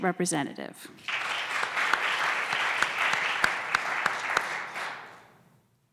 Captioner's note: applause